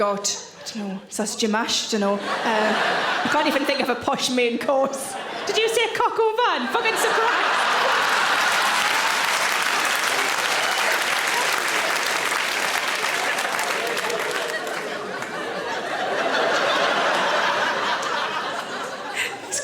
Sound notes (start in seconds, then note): 8.3 audience cheering; 15.7 audience laughing